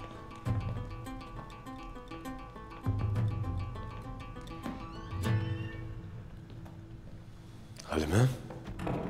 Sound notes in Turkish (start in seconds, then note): 4.4 Kapı gıcırtısı sesi; 4.8 Kapı kapanma sesi